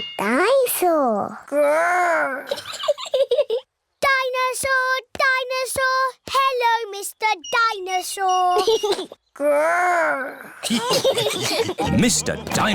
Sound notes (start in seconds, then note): 2.5 giggles; 10.6 giggles; 10.6 laughter